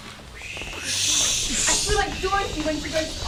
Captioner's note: whooshing